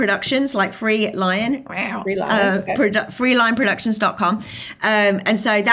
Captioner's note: makes cat sound